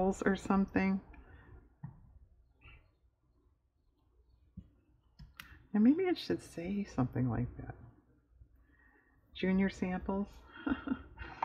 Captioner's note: laughs